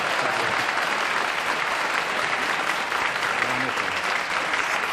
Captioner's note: applause